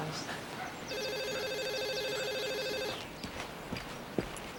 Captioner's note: phone rings